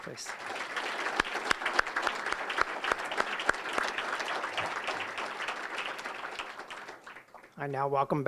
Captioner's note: applause